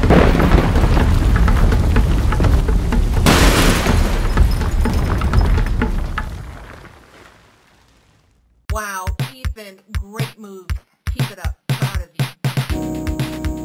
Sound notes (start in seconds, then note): 0.0 thunder; 3.0 thunder and glass breaking